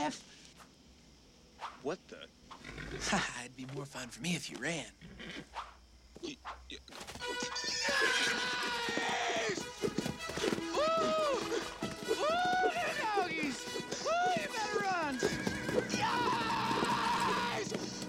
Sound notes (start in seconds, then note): 2.5 snorts; 5.2 stammering; 7.1 horse Whinnies; 7.1 yells; 10.3 whooping